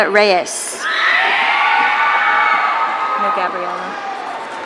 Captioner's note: audience cheering